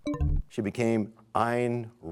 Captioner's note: bell chimes, time expires